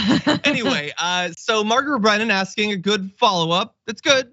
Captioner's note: laugh